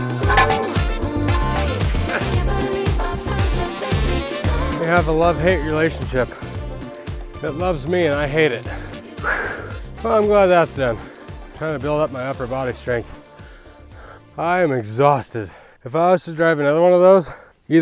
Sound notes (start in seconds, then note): 8.6 exhales